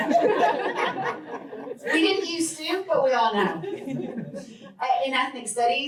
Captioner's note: laughter